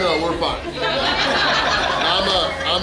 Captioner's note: hahaha